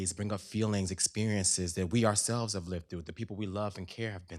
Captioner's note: none